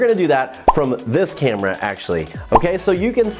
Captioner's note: word pops